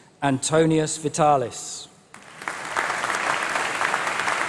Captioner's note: applause